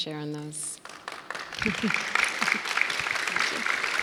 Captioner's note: audience applauds